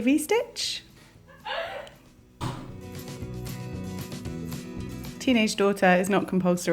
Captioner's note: daughter laughing